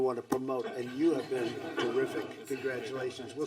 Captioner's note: laughter